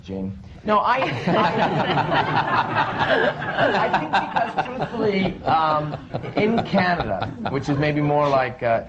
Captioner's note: laughter